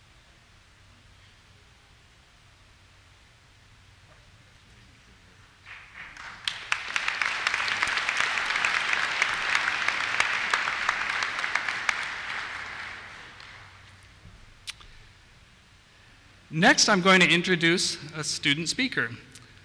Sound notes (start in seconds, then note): 5.6 applause